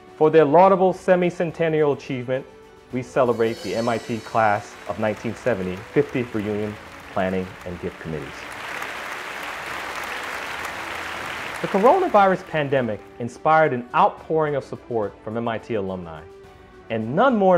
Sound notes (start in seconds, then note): 8.3 applause